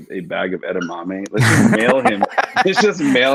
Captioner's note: laughs